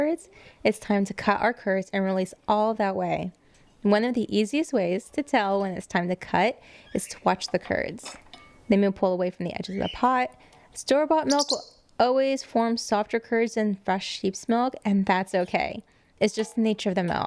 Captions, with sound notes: it's time to cut our curds and release all that way. One of the easiest ways to tell when it's time to cut is to watch the curds. They may pull away from the edges of the pot. Store bought milk will[interupt a chirps] always form softer curds than fresh sheep's milk, and that's okay. It's just the nature of the milk.